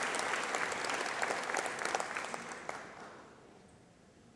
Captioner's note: applause